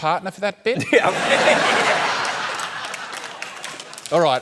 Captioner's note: laughter